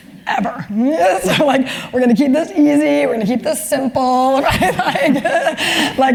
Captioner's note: laugh